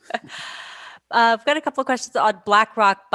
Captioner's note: laughs